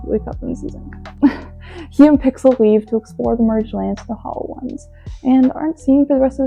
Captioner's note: laughs in denial